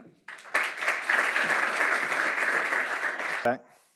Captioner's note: applause